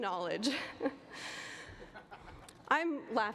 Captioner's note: laughter